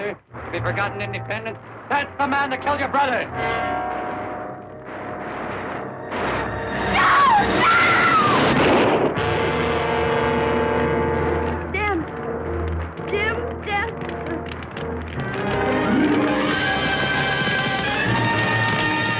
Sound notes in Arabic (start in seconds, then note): 3.6 موسيقى درامية; 5.3 صوت طلقات نارية; 8.3 صوت طلقات نارية; 15.2 موسيقى درامية; 16.5 فرقعة النار